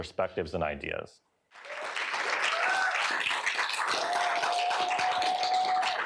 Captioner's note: applause